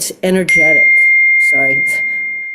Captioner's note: notifications beeps